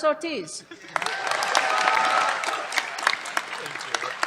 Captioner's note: cheers, applause